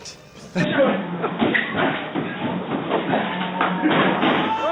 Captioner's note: blows thudding